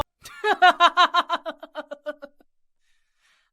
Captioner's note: laughter